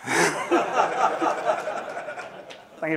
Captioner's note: laughter